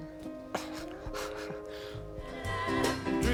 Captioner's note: laughs